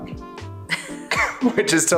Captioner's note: laughs